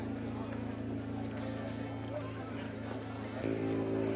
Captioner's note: saloon chatter